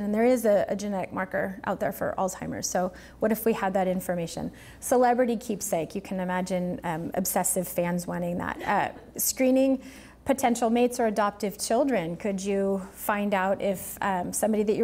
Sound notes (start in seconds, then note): none